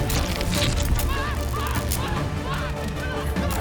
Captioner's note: crackling; Charlie screaming